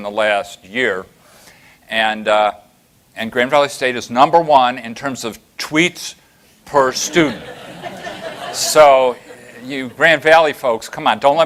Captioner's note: laughter